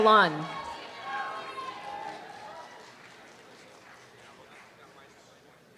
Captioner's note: students cheer and applaud